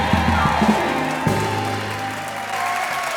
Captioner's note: audience applause